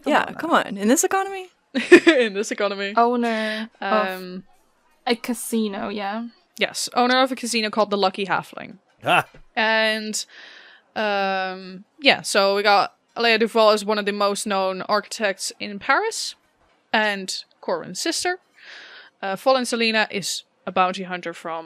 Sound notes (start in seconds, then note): 3.9 laughing; 9.0 Annie laughs